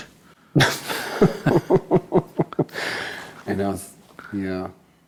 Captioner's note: laughs